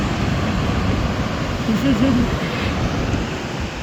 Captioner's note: giggles